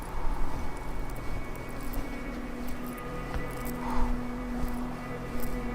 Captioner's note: wind blowing